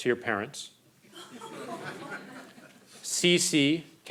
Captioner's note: crowd laughing